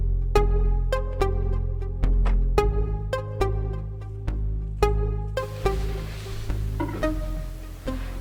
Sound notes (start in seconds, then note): 2.2 car door slams